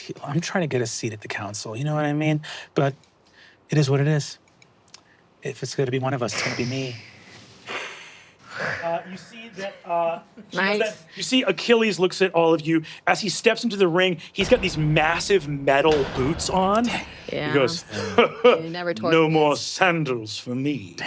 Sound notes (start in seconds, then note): 6.3 hisses; 17.8 chuckles